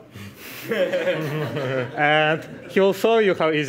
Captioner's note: laughing